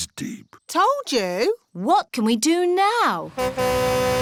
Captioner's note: horn honks